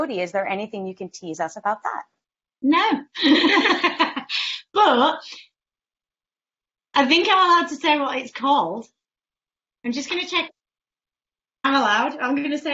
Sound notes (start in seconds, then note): 3.2 laughs